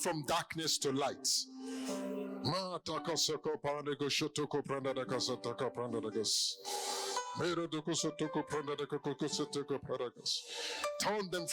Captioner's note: in Zungen redend